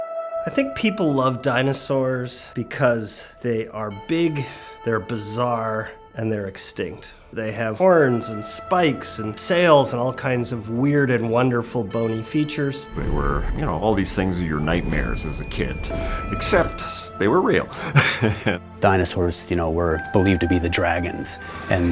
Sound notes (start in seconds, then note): 17.8 laughs